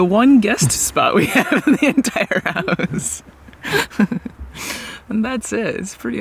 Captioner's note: laughing